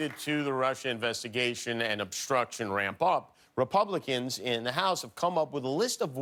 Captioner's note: applause